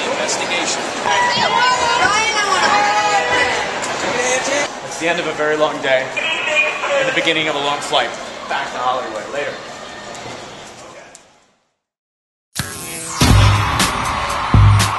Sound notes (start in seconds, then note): 1.0 cheers